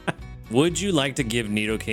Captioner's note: laughs